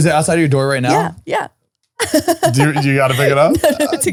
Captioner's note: laughs